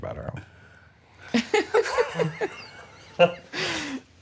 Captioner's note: laughter